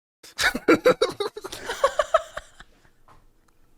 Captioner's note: laughter ensues